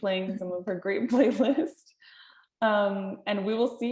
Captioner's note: chuckles